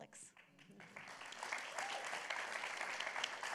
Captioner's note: applause